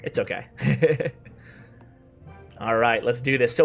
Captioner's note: laughs